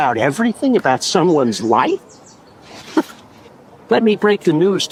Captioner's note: chuckles